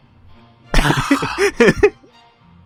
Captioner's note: sighs